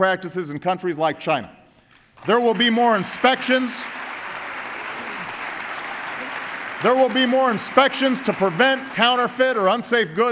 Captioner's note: applause